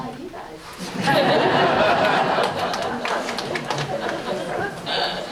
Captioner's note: audience laughs